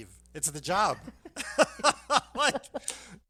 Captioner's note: laughs